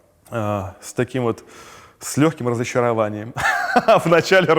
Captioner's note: laughs